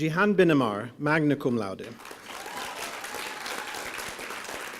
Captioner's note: applause